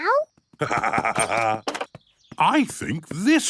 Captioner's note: laughs